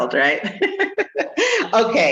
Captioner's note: laughter